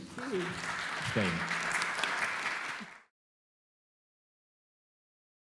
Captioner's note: applause